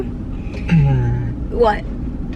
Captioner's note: clearing throat